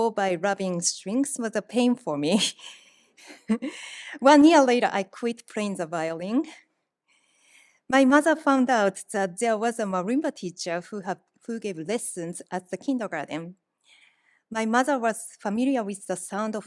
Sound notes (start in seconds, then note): 2.6 laughs